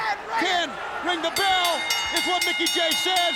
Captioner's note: bell rings